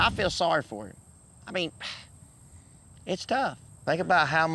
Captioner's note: sighs